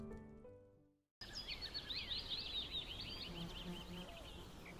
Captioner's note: birds chirping